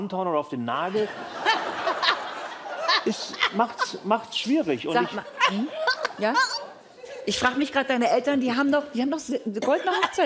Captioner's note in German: Lachen